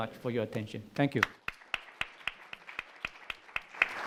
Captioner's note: applause